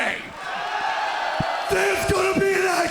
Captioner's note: cheers & applause